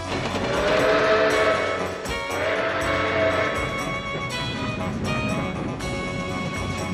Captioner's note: dramatic music; train bell clanging; folksy music; train horn wailing